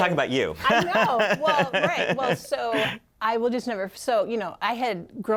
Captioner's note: laughter